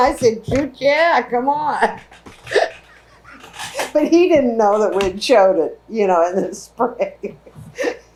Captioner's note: laughs